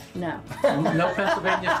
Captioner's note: laughs